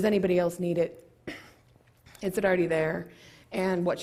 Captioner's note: cough